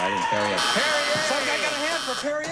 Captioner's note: audience cheers